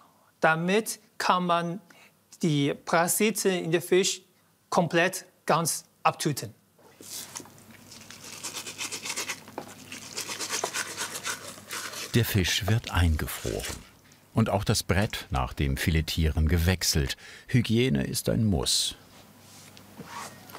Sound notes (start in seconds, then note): 7.8 cutting noises